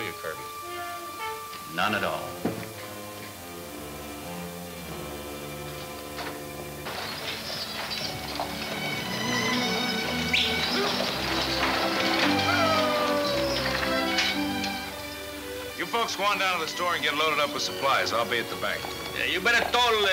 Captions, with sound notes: - None at all. (pleasant orchestra music) (yelling at horses) - You folks go down to the store and get loaded up with supplies. I'll be at the bank. - Hey, you better told Borax not to drink